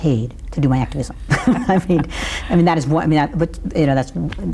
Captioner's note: laughs